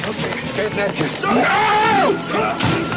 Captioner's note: yelling